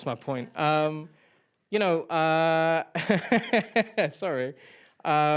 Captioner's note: laughing